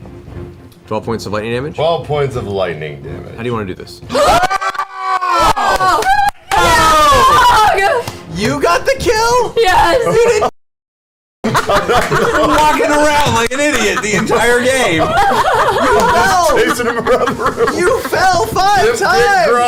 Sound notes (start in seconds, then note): 4.1 all scream and cheer